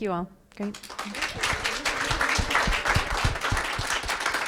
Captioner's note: audience applause